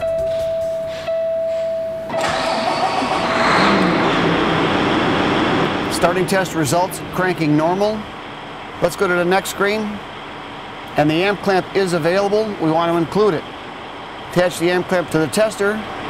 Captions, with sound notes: [sfx: engine starts] starting test results cranking normal let's go to the next screen and the amp clamp is available we want to include it attach the amp clamp to the tester